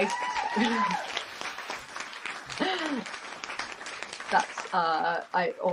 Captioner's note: applause